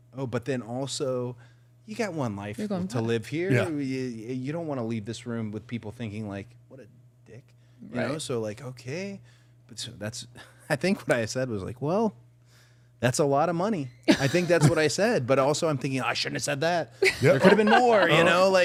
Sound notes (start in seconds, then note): 10.3 chuckling; 14.1 participant laughing; 17.0 participant laughing